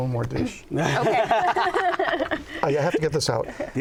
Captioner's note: laughter